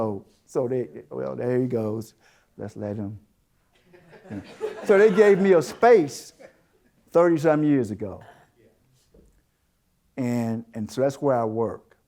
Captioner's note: audience Chuckles